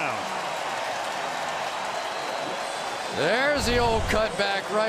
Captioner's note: cheering